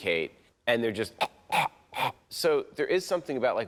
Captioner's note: gags